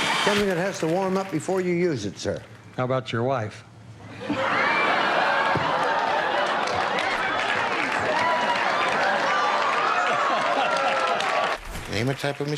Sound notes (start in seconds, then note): 4.0 laughter; 7.5 applause